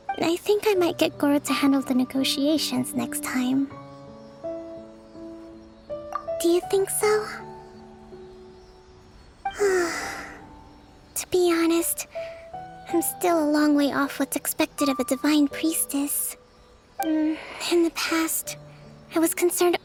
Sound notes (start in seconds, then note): 9.6 sigh